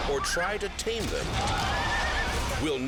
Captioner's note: horse thuds